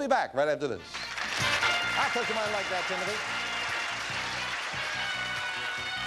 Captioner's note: audience applauding